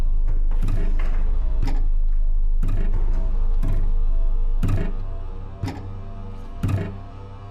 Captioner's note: intense tense music; object thudding rhythmically